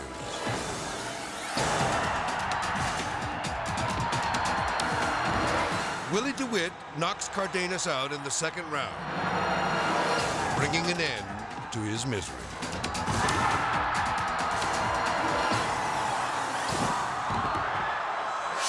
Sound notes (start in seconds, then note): 0.0 edgy dramatic music; 1.8 crowd yelling; 1.8 explosive music; 5.0 crowd yelling; 5.0 dramatic music; 9.2 edgy dramatic music; 12.3 dramatic music; 12.7 crowd cheering; 15.4 edgy dramatic music